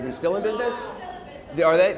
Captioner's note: crowd